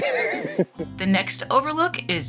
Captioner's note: laughs